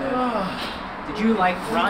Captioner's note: mechanic sighs